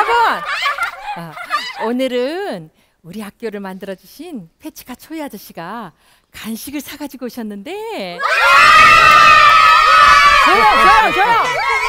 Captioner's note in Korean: 와~~ 환호소리